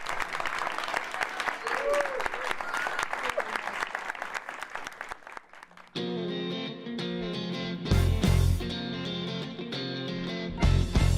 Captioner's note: applause